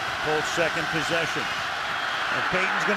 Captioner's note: cheering